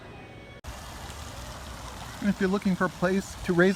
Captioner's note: water spraying